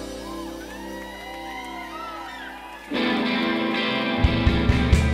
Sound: audience cheering

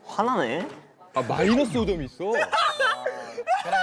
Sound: sob

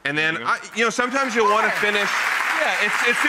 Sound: audience applauds

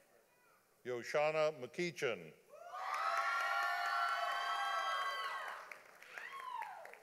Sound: audience applauding

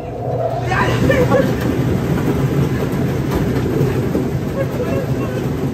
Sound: laughing

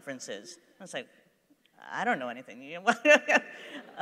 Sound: laughs

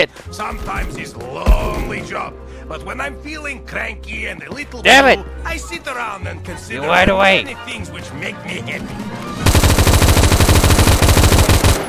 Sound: angry Russian Yells

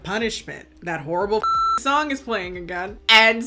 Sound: beep

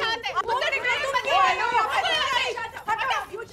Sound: quarrelling loudly

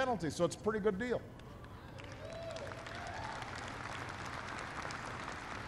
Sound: applause

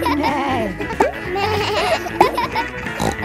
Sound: bleats; neighs

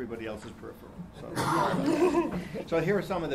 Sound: laughing

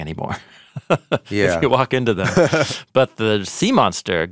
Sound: chuckling

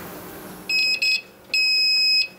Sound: repeated beeps

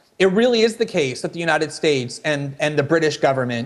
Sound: none

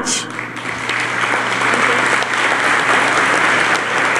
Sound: applause

